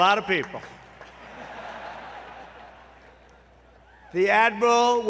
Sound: laughter

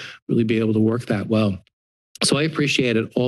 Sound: clear of the throat

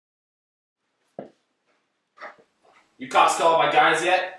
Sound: footsteps

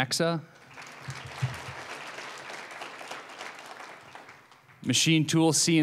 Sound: applause

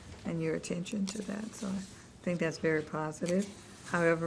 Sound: rustling of papers

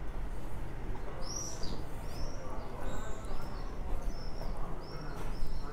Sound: birds cry voice

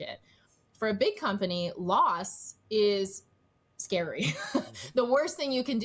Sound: chuckles

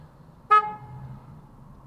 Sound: honk

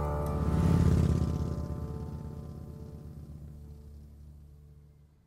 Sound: motorbike roaring

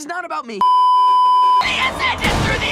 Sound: beeeeeep

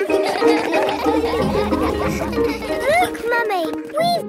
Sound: all laugh

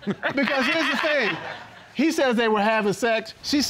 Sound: laughing

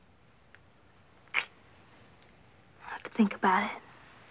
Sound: lips smack

